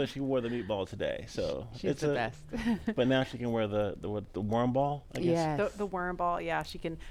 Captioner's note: laughter